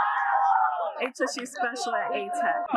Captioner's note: students cheering